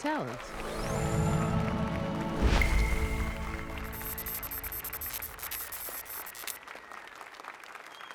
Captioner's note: applause and cheers